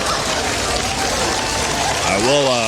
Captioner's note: applause